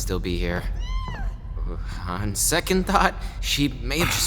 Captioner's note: Borsha yelps from a distance